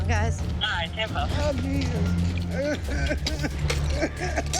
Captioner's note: coughing